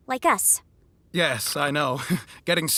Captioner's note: laughs ruefully